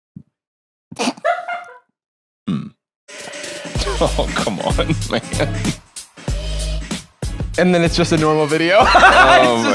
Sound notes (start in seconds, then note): 0.9 snorts; 3.8 laughing; 8.8 laughs